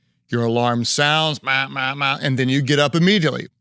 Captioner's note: mimics alarm blaring